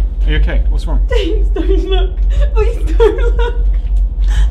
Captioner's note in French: en larmes